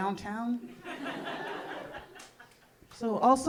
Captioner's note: audience laughing